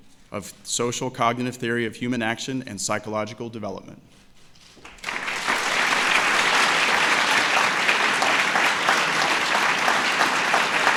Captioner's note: applause